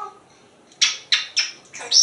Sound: kisses

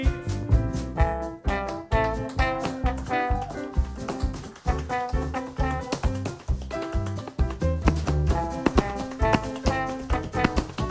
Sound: tapping

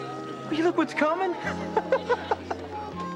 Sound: laughing

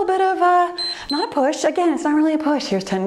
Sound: timer beeps

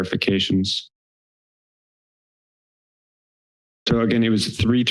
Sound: pause

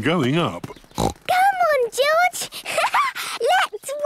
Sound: snorts; laughs

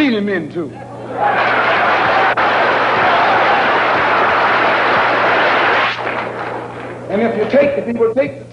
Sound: applause

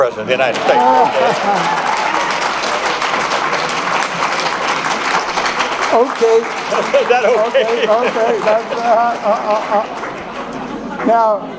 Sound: applause

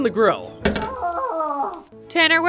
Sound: man screaming

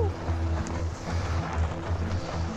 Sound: laughs

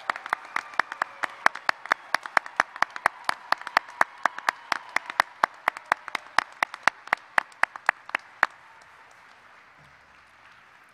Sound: applause

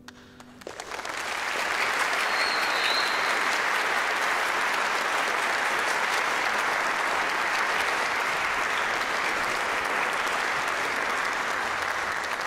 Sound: applause

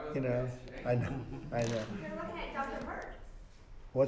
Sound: laughter

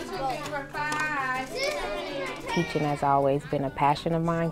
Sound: classroom sounds

